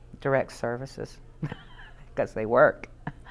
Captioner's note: laughs